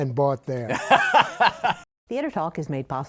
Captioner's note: laughs